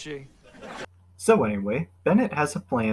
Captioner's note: laugh track